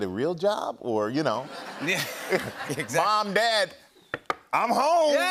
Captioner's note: laughter